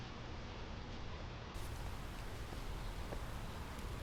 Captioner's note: footsteps approach